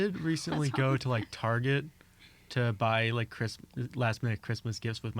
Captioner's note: laughs